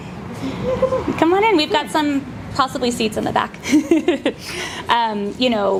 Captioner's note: laughs